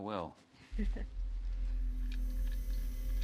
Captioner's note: Sandy chuckles; unsettling music